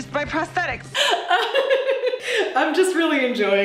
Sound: laughing

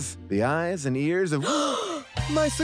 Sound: gasping

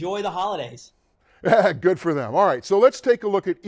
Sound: laughs

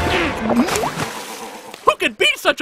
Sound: gulps

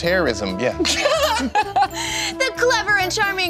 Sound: laughing

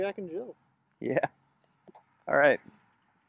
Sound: laughs

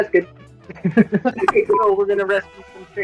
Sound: laughter

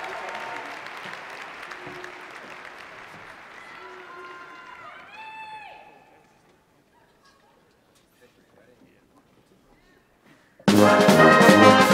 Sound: cheers and Applause

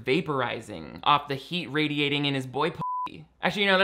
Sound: beep

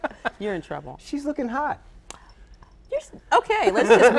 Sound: laughter

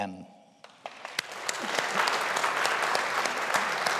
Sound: audience applauding

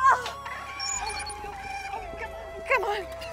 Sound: porgs chirping

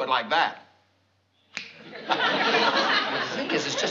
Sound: snaps fingers

